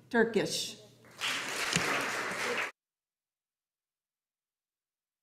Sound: audience applauding

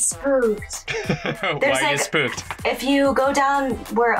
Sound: laughs

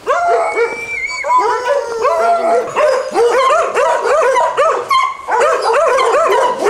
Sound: dog barking

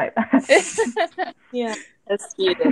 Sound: laughter

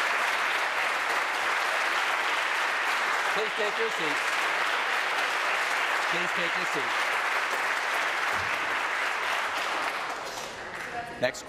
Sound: applause

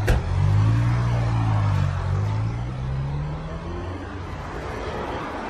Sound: car door closing; revving car engine

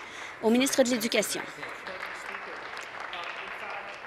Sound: applause

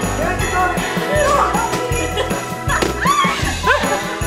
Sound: children giggling; box thudding

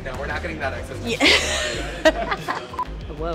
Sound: Morfydd laughs

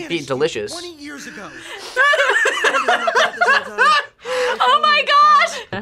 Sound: both laugh

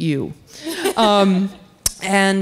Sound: laughter

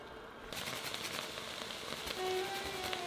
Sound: grating

